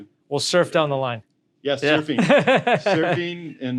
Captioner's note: laughs